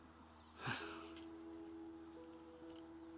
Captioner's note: sigh